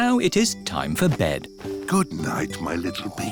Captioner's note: snorts